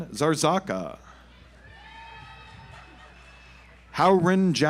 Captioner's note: audience applauds